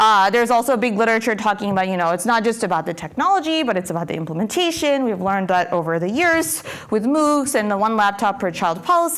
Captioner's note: none